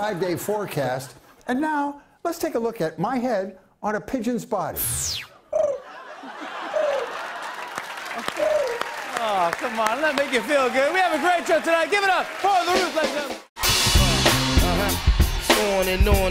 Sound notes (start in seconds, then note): 5.5 cooing